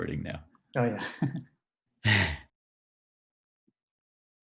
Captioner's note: laughs